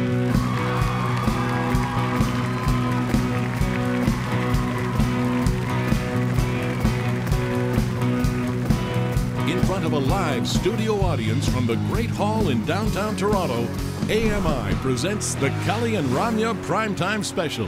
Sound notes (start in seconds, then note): 0.0 audience cheering; 0.7 upbeat rock music